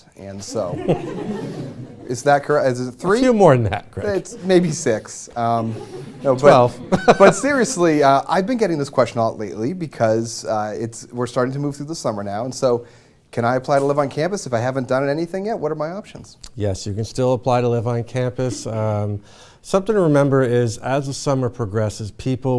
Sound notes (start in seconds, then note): 0.4 laughter; 5.6 laughter